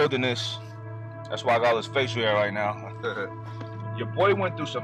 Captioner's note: chuckles